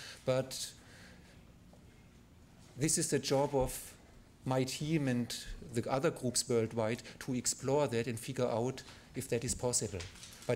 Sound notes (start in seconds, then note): none